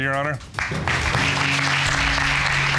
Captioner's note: audience applauding